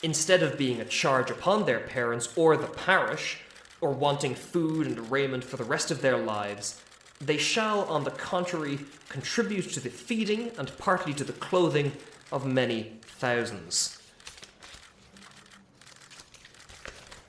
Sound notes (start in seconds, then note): 13.0 paper shuffling